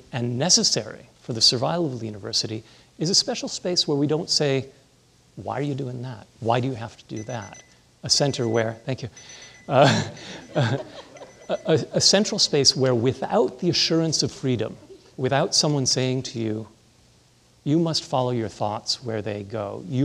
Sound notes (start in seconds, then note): 8.1 timer beeping; 9.7 chuckling